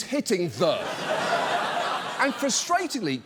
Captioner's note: studio audience laughs